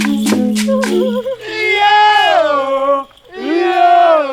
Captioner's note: men's exclamation